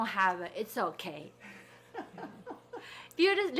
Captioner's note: people laughing